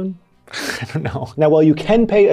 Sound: laughs

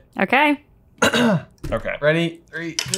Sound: coughs

